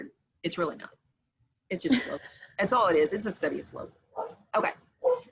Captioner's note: laughter